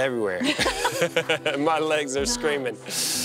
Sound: both laugh

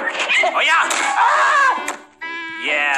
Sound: yelling in Pain

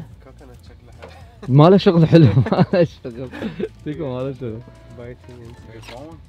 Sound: laughter

